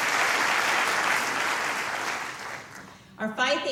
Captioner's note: applause